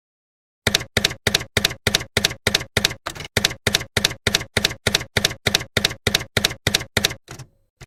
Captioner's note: typewriter keys clacking